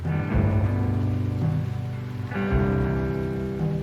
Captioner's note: rain falling